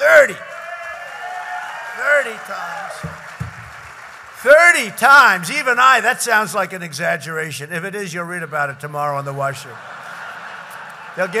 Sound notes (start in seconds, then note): 2.7 applause